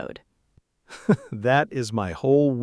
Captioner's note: laughs